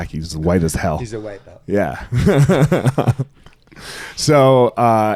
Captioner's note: laughing